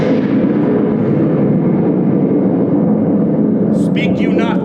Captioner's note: thunder